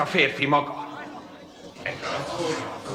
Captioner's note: courtiers muttering